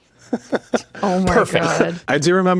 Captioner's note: laughs